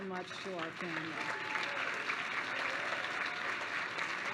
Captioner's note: applause